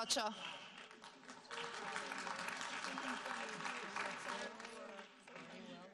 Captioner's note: audience applauding